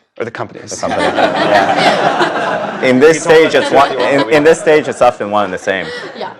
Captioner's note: laugh